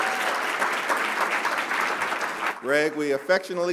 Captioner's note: applause